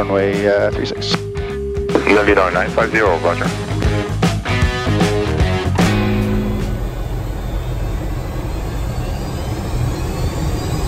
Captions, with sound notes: one way, three-six. - Nine, five, zero, roger. (upbeat music) (engine roaring)